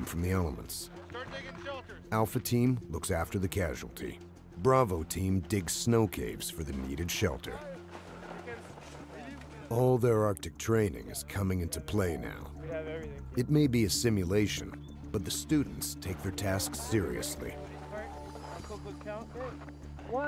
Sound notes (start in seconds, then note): 3.4 voiceover